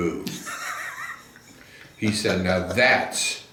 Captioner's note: laughs